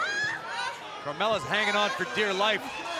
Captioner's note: crowd cheering